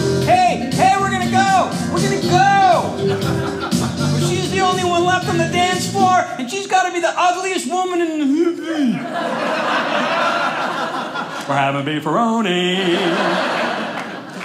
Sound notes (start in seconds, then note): 8.7 audience laughing